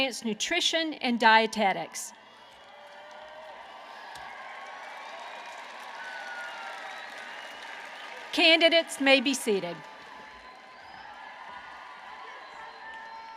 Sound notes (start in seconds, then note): 2.1 applause